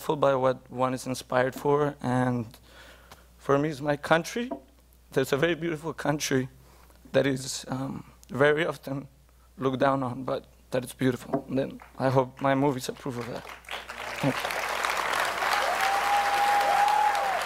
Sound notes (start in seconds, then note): 12.9 applause